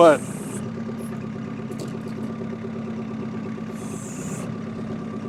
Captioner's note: machine motor humming